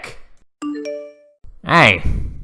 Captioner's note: phone Blings